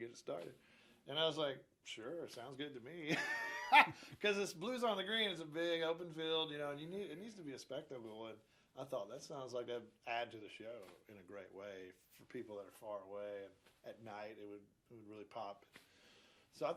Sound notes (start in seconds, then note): 3.1 laughs loudly